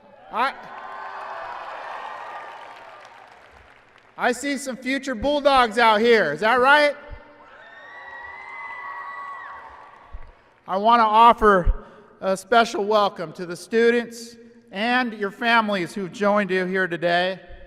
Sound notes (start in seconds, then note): 0.2 applause and cheering; 7.5 applause and cheering